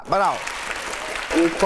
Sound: clapping hands

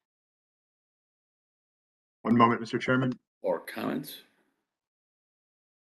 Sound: A pause

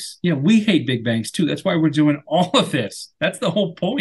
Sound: laughs

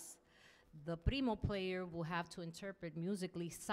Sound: speaking in Spanish

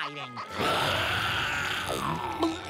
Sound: growling

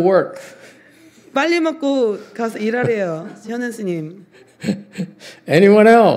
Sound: laughs

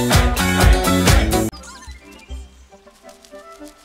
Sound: flapping

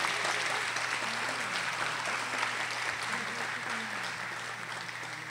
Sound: audience applauding

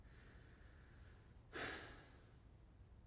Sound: sighs

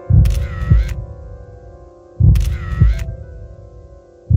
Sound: camera snapping

